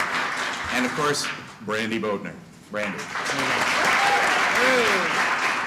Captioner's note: applause